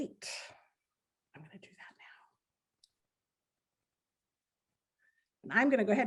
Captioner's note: whispering